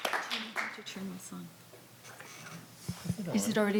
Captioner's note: faintly speaking